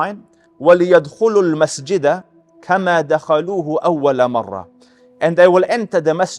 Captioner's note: Arabic